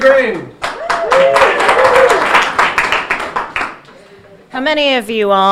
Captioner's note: audience cheering and applauding